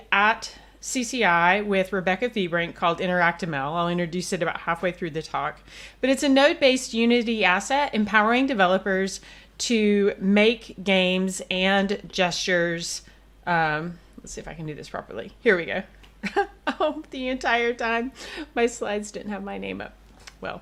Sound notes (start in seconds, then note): 16.2 laughs